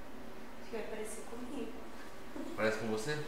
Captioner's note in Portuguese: Risos